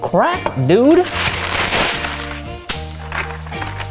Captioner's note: crunch; smack